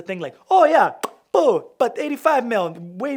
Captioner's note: lips popping